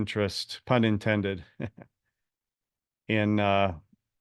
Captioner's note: laugh